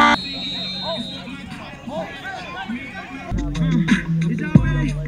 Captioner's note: whistle blowing